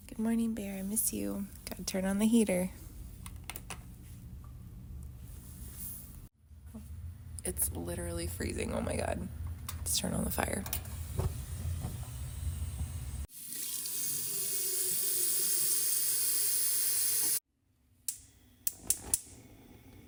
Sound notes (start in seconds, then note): 6.0 heater clicks; 10.5 fireplace clicks on